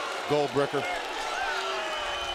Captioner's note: crowd cheering